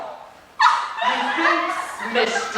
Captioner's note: fairies giggle